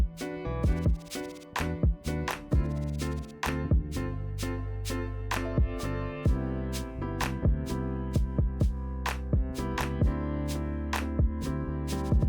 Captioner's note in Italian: Applauso